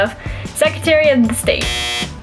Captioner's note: buzzer